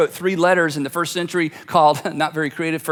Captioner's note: laughs